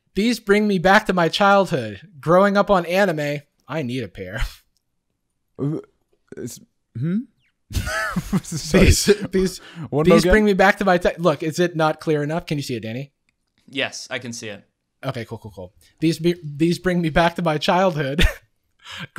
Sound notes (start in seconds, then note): 5.6 scoffs; 7.7 laughter